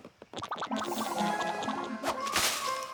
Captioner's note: whiffle!